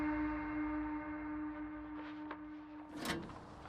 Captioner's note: muffled paper movement; mailbox opens